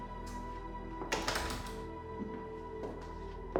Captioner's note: door clicking; footsteps tapping